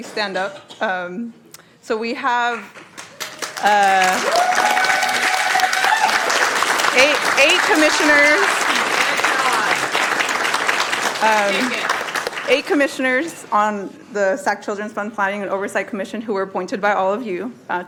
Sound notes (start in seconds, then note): 10.9 applause